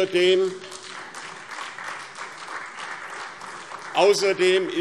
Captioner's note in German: Beifall SPD